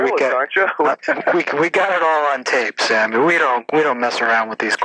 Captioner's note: laughs